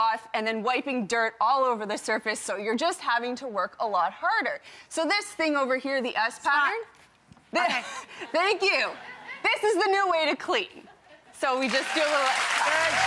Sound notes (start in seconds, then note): 8.8 audience laughing